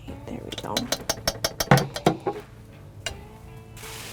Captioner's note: spoon tapping